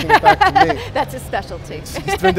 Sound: laughs

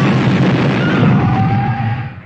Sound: death noises 💀

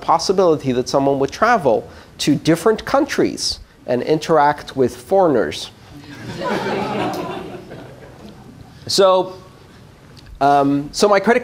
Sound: laughter

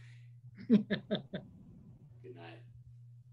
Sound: laughing

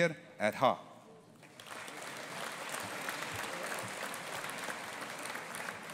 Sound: audience applauding

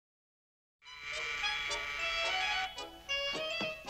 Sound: doorbell buzzes

